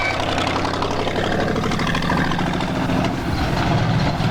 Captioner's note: car engine revving